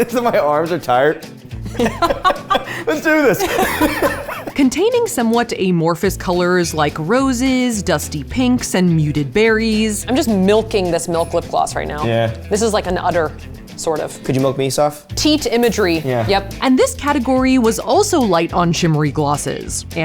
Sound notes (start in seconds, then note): 3.9 both laugh